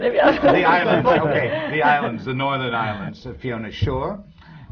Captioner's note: laughter